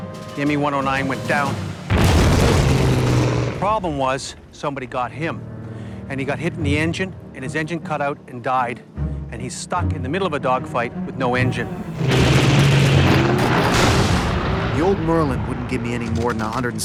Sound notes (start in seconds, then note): 2.5 aircraft explodes; 11.4 aircraft engine roars; 14.1 gunshot fire